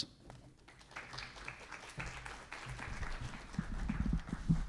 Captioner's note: applause